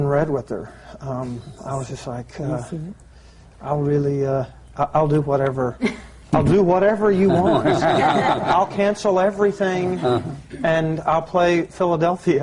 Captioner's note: laughter